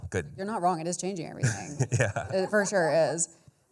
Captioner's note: chuckles